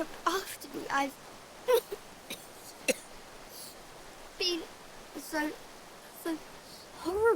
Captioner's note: coughing